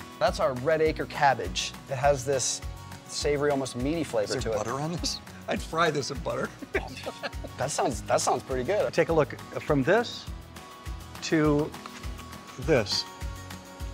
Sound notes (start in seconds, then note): 6.3 laughing